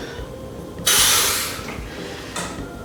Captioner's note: sharp exhale